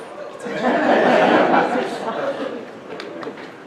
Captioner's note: audience laughter